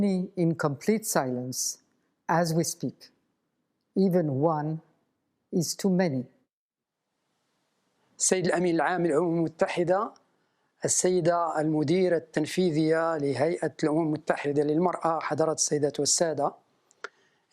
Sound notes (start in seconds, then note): 8.3 speaking in foreign language